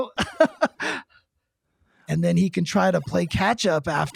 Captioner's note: laughs